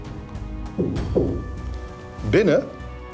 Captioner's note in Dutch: geklop